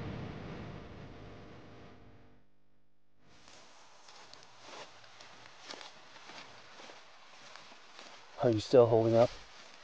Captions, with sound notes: [Footsteps] Are you still holding up?